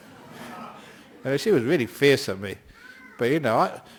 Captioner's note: laughter